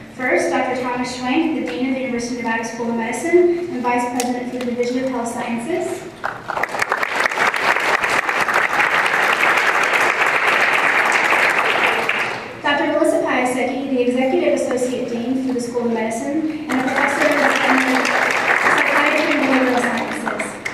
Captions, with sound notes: First, Dr. Thomas Schwenk the Dean of the University of Nevada School of Medicine and the Vice-President of the Division of Health Sciences. [applause] Dr. Melissa Piasecki, the Executive Associate Dean for the School of Medicine. [applause] and a professor in the Department of Psychiatry and Behavioral Sciences;